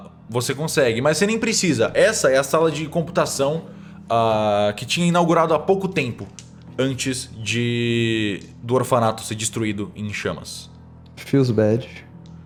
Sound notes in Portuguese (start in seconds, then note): none